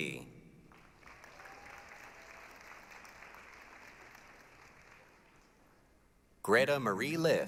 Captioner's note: applause, cheering